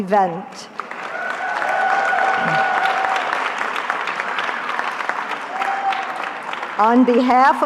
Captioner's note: cheering